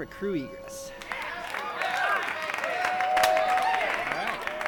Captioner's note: all cheering; all applauding